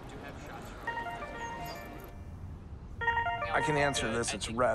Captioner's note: phone rings